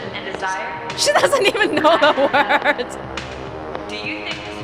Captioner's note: chuckles